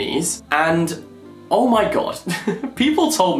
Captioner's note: laughs